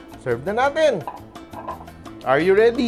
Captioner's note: clang